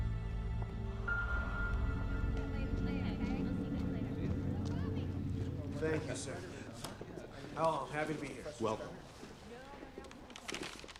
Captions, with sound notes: (students chattering) - Thank you, sir. Oh, I'm happy to be here. - Welcome.